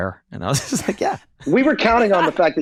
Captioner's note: Glenn chuckling